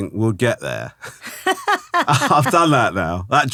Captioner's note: laughing